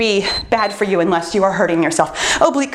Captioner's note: timer beeps